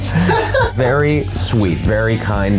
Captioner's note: laughs